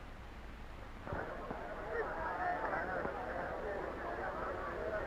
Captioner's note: chattering